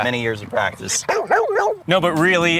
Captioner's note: barks